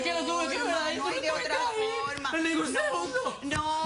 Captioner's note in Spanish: Sollozos